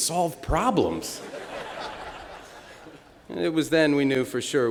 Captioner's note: laughter